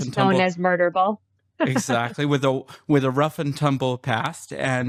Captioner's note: laughter